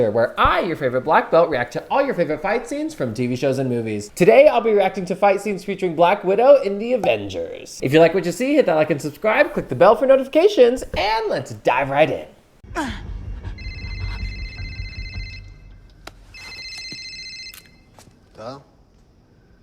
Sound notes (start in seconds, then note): 13.6 phone ringing